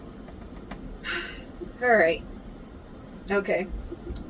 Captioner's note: sighs